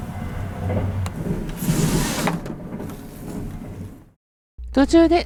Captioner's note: sound of curtains being closed